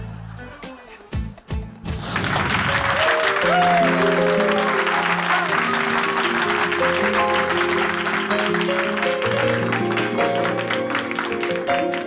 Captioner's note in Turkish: Gülme efekti; Alkış ve tezahürat sesleri